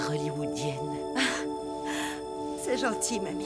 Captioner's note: chuckling